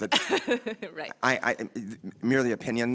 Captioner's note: laughs